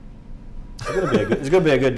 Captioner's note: laughter